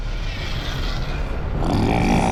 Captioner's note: grunting